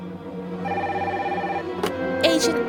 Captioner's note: phone rings